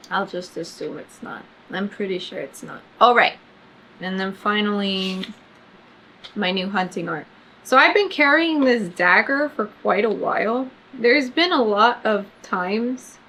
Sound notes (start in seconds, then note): none